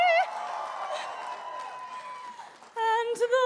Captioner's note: applause